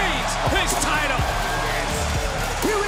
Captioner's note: bell rings